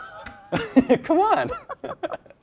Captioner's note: laughs